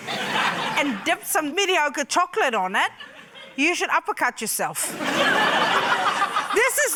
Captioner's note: laughter